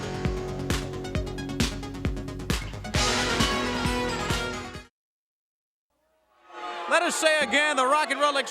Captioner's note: crowd cheering